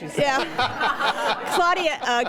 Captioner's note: laughter